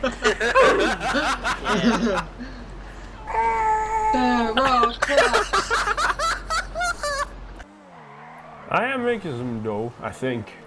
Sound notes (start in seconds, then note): 3.0 Pod-racer screams